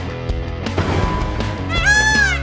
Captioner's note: electric guitar music; clanking